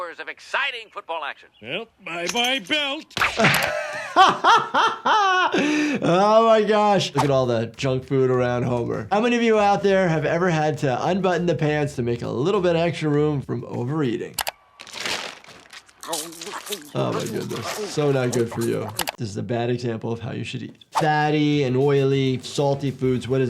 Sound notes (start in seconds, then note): 3.3 doctor laughing; 14.7 bag crinkling; 14.8 Homer munching